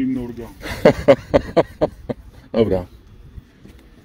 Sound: laughs

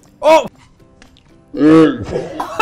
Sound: slow-motion dramatic oh; laughing

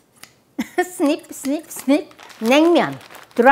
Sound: laughs

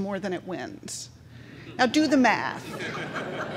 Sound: crowd chuckling

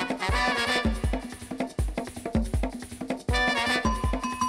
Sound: none

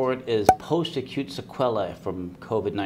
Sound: pop

